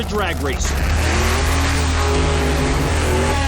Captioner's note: engines rev